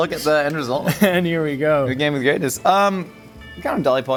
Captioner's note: laughing; chuckles